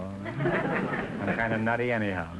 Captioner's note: audience chuckling